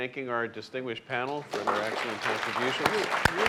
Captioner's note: clapping